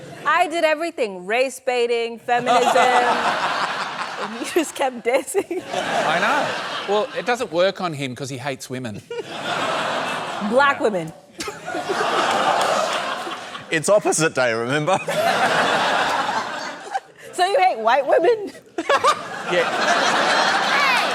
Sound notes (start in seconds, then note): 2.4 laughter; 11.4 laughter; 14.9 laughter; 18.8 laughs